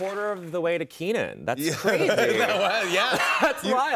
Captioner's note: laughing